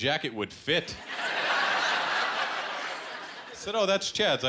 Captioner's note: laughter